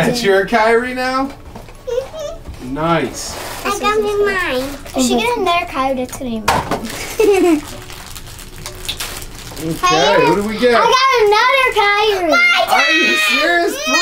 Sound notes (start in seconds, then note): 1.9 squeaks; 6.4 box thumps; 6.9 laughs